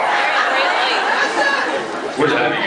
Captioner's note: laughs